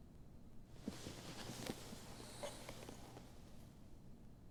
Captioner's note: clothes rustling